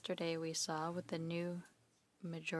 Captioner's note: speaking in French